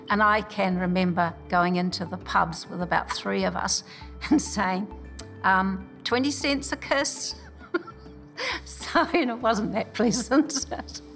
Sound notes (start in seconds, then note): 7.6 laughs